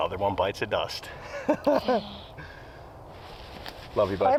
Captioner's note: both laugh